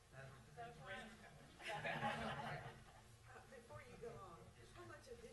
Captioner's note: laughs